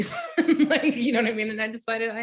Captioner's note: chuckles